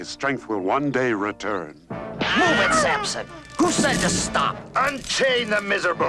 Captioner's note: whip cracks